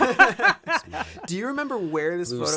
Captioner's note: laughter